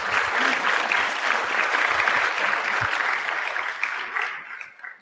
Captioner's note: applause